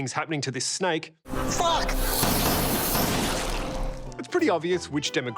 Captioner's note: gunshots